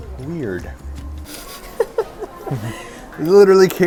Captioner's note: laughing